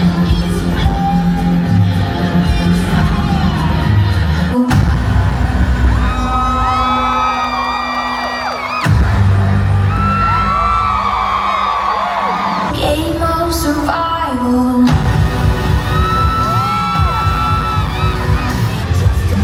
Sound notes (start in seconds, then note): 0.1 robust music; 4.9 tensed music; 5.2 guests cheer and clap; 6.7 tensed music; 14.8 guests cheering; 15.1 dramatic music; 19.2 energetic music